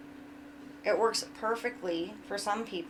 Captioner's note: none